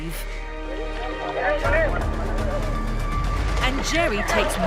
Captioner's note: intense music; chatting